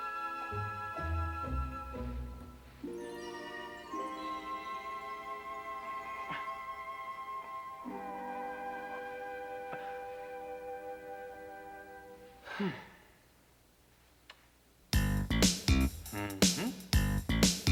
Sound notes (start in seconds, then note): 5.3 struggling; 15.0 upbeat music playing